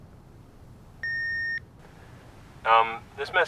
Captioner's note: beeping